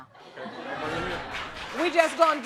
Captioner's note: audience laughing